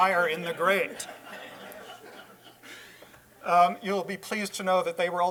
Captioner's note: laughter